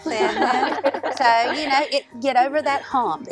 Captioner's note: laughter